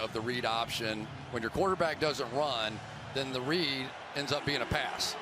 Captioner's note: cheers